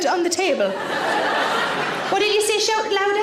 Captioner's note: audience laughs